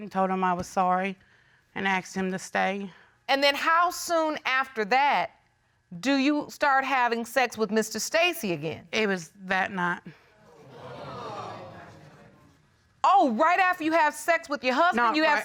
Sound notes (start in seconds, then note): 10.6 audience exclaiming